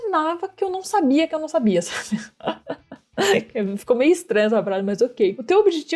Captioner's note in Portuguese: risos